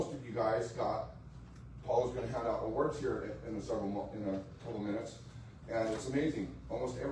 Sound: stammers

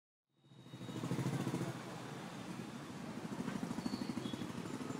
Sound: whirring sound

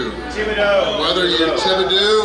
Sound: crowd

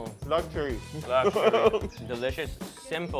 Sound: speaks in foreign language

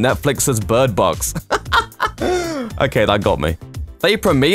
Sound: laughs

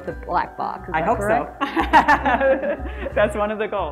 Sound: laughs

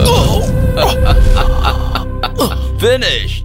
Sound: laughs

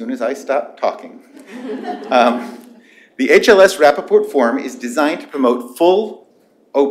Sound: laughter

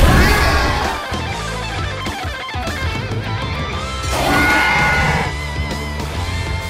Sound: Scorpios Rex roaring

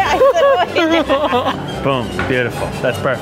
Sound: laughs

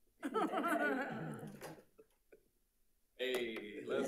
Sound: audience laughing

